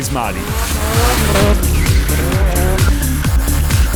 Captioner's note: revving and drifting